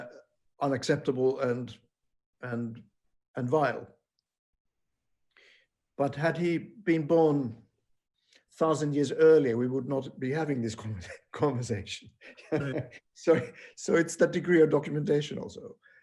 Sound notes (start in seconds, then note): 12.2 laughing